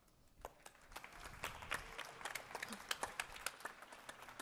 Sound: audience applauding

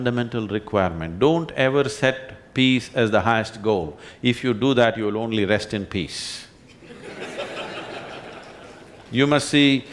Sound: laughter

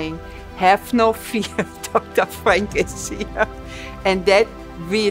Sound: chuckles

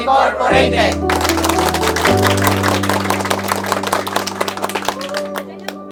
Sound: applause

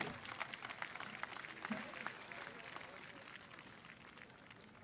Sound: audience applauding

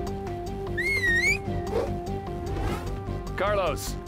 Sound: whistles

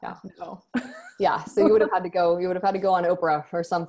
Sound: laughs

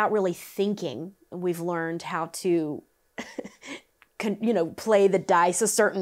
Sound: laughs

